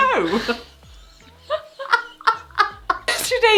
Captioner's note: both laugh